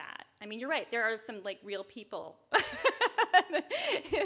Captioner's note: laughs